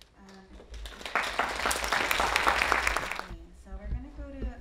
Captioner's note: audience applauding